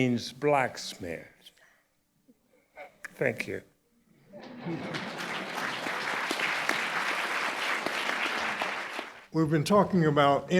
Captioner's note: applause